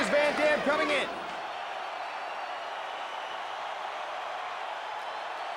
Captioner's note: spectators cheering